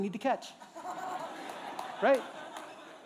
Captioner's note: laughter